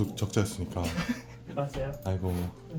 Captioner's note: laughing with bitterness